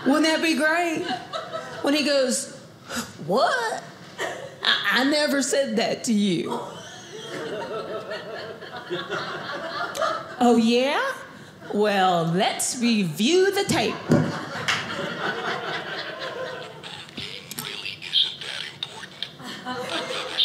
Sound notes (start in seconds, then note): 13.8 audience laughing; 15.4 tape recording plays